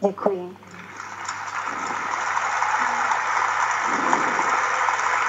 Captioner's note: applause